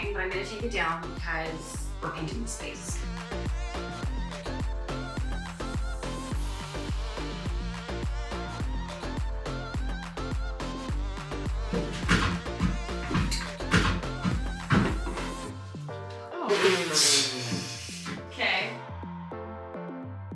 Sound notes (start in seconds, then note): 5.9 happy music continues; 11.7 hammer thumping